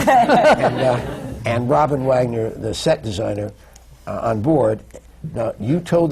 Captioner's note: laughter